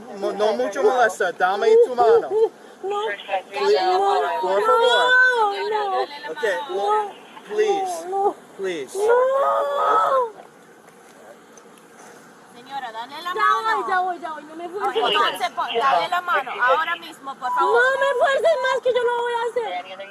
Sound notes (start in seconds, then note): 13.4 speaking in Spanish; 15.7 police officer speaking in Spanish; 17.7 speaking in Spanish